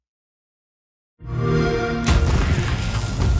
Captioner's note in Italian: xbox sound